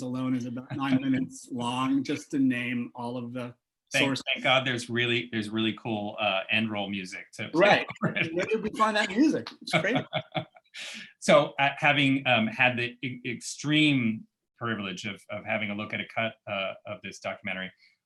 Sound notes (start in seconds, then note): 7.8 laughter